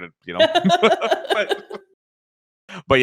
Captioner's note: laughs